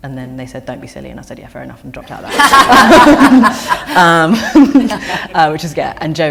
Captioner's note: laughter